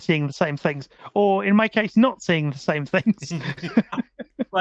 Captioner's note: laughing